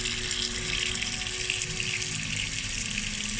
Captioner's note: sound of running water